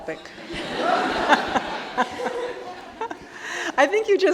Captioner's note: all laughing